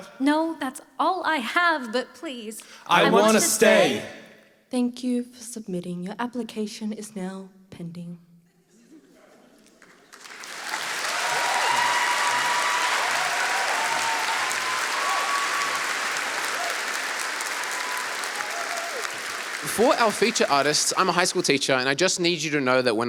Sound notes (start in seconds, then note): 9.7 applause